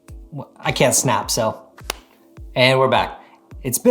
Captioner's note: hands clap